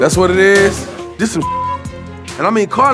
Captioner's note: beep